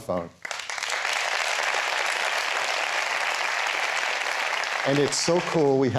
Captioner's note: applause